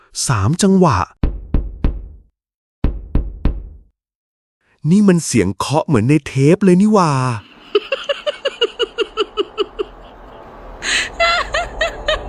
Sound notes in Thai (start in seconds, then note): 7.4 เสียงหัวเราะ